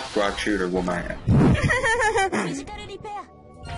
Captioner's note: laughs